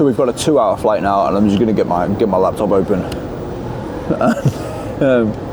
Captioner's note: laughs